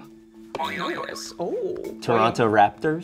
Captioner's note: springing sound